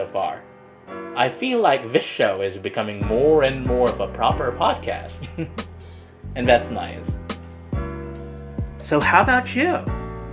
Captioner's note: chuckles